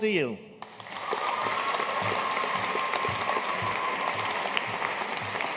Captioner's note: audience cheering and applauding